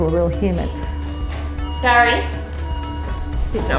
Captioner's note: monitors beep